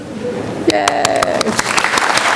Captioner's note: clapping